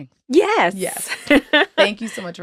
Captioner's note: laughing